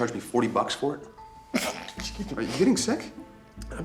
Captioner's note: stifled sneeze